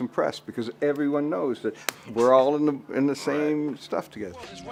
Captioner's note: claps